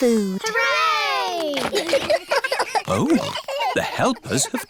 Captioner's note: giggles